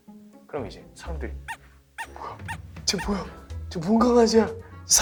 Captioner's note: chatters